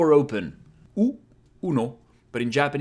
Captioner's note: repeats ‘uno’ with a Spanish accent